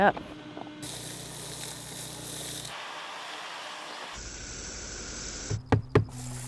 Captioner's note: Shop-Vac sucking